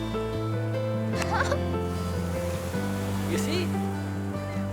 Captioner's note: Suzanne laughs